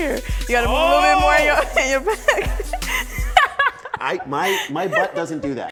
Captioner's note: laughs